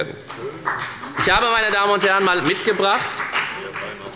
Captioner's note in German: Beifall bei der FDP